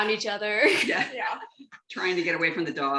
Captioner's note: laughter